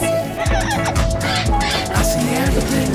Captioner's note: squawking